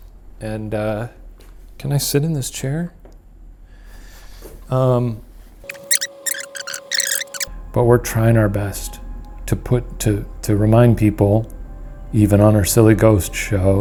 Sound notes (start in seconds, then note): 5.7 tape fast-forwarding